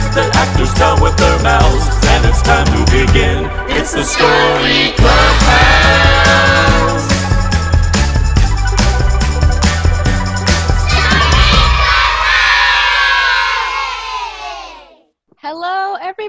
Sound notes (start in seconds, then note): 10.8 cheering